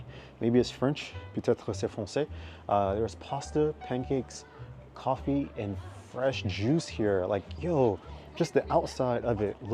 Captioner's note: speaking in French